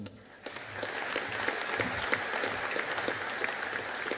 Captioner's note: audience applauding